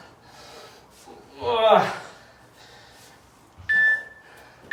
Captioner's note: grunts